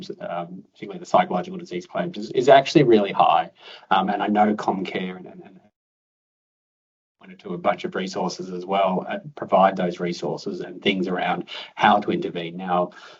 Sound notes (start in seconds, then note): 3.9 audio dips